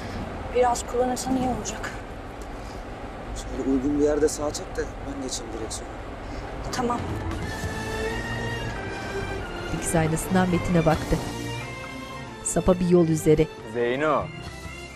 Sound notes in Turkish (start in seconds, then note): 6.9 Müzik - Arabesk; 7.5 Araba sesi